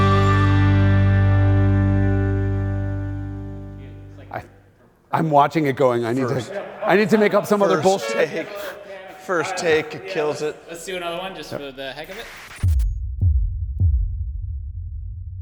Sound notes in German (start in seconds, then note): 7.7 Hupe dröhnt